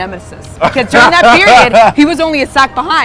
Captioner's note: laughs